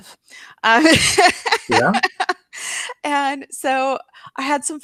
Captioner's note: laughs